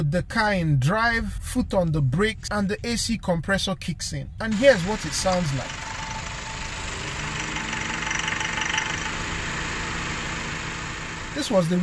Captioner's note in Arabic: صوت المحرك